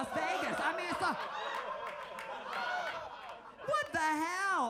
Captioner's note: audience laughs